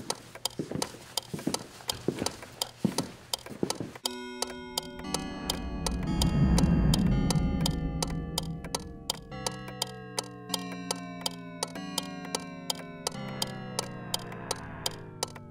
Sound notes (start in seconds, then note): 0.0 footsteps; 4.6 clock strikes; 7.7 chime pitch decreases